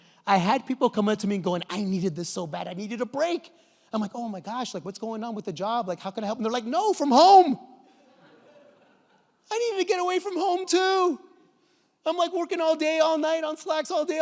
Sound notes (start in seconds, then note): 7.9 audience laughs